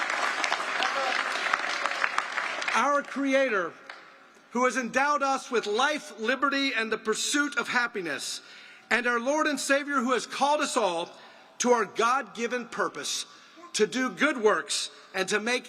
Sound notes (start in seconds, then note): 2.3 applause